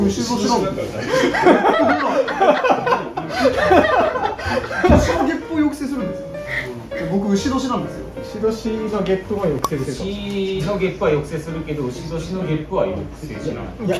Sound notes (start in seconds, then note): 3.1 all laughing